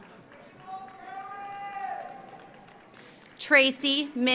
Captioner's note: audience cheers; audience applauds